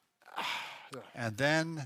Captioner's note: deep exhale